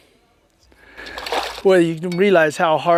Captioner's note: splash